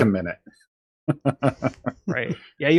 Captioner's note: laughs